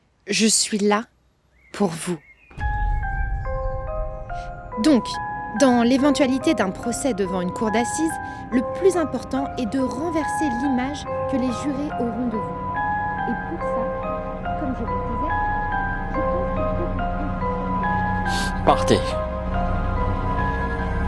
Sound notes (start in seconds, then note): 2.6 ominous music; 13.5 Alysson's distant voice